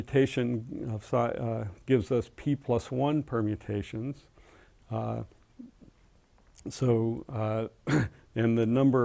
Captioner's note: cough